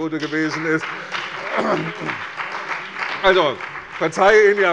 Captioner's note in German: Beifall bei der CDU und dem BÜNDNIS 90/DIE GRÜNEN